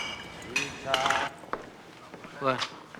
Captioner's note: bottles clinking